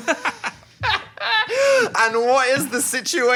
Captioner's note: both laughing